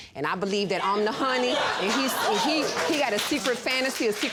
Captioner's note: audience laughs